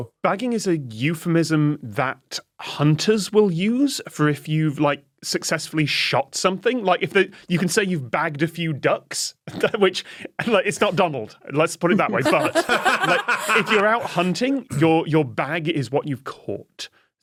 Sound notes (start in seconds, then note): 11.9 laugh